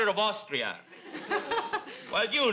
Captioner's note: audience laughs